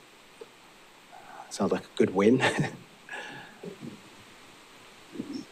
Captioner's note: laughing